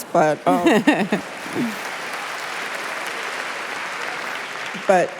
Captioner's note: applause